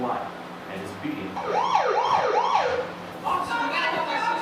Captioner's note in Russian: звук сигнализации